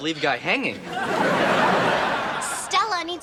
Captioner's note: audience laughs